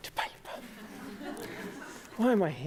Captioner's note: laughter